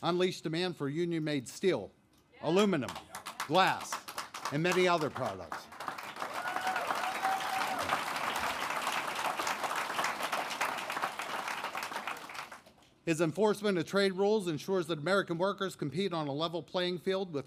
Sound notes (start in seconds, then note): 6.9 applause